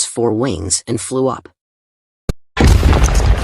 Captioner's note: explosion